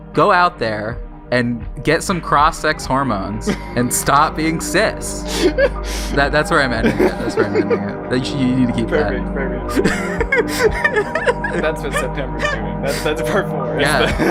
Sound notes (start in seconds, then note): 2.2 chill music starts fading in; 5.0 laughing; 9.6 both laughing